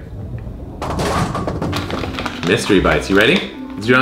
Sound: bowling pins crash

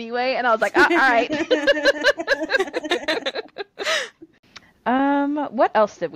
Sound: laughter

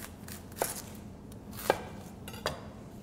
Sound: chopping sounds

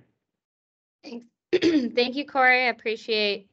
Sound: clears throat

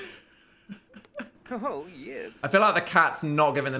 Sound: speaking Simlish

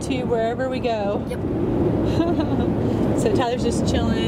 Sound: laughing

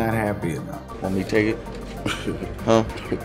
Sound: Marshawn laughs

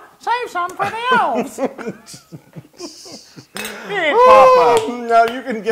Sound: laugh

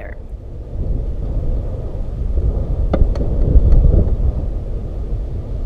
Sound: wind and fire howling

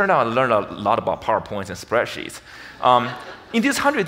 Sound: audience laughs

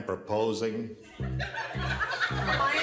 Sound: laughter

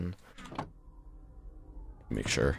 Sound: Elder Guardian noises on the right

